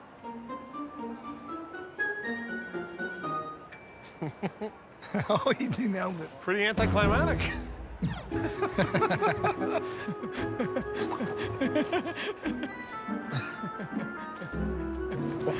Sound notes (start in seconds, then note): 8.3 laughter